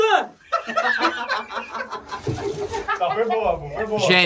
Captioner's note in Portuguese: risadas